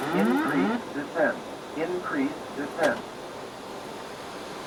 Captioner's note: alarm whirls